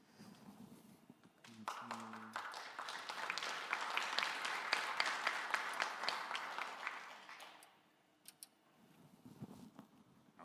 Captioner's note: applause